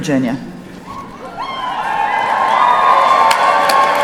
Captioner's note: cheering